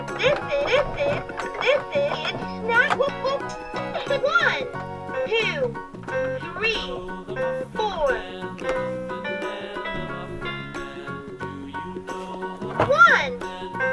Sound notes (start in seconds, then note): 3.8 giggles